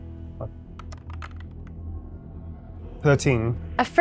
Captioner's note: dice clattering